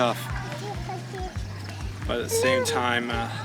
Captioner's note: child babbling